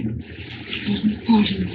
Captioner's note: muttering